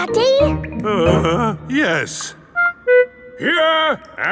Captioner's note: groans